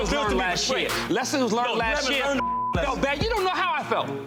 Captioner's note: beep